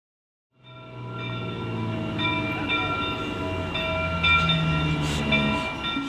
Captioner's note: train Bell Ringing